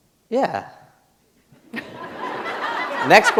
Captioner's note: laughter